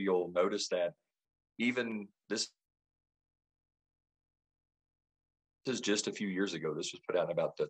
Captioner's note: sound cuts